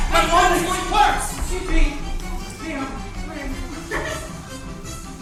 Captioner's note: Ernestina giggles